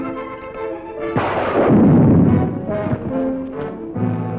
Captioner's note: gunshot; dramatic music